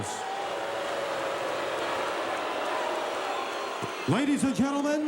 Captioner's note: audience booing